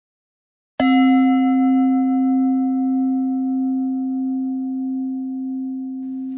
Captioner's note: bell chimes